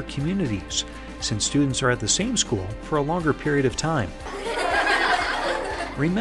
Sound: students laughing

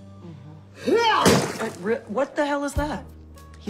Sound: loud thud

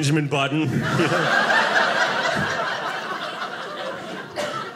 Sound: audience laughing

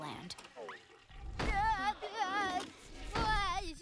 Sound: groaning

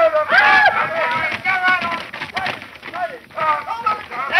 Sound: men cheering

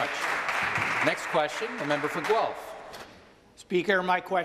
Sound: some Applause

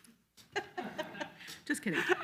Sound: all laugh loudly

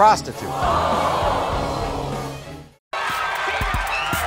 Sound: audience screaming

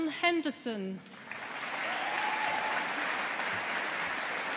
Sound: audience applauding

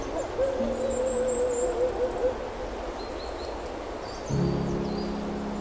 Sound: wolves howling

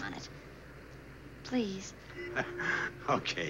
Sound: laughs

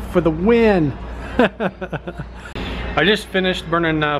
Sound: laughs

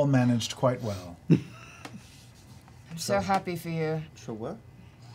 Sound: deadpan

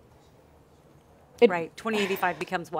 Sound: exhales

